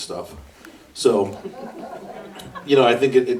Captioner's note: audience laughs